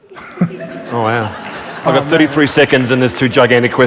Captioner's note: laughter